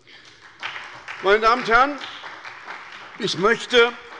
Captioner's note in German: Beifall bei Abgeordneten der SPD